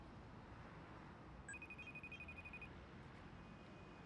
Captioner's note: dialing tone